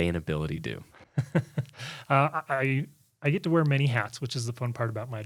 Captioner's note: laughs